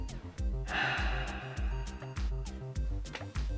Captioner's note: heavy Sigh